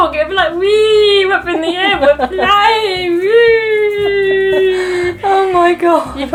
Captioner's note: laughs